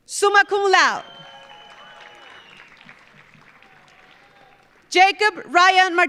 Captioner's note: audience cheering; audience applauding